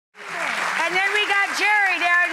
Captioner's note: audience clapping